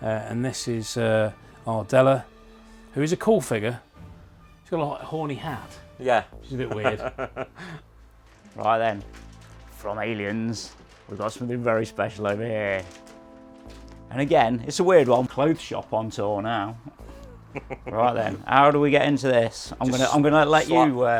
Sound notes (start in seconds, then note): 6.5 laughs; 16.8 laughing